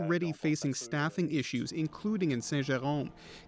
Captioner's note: speaking French